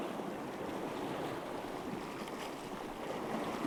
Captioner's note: water lapping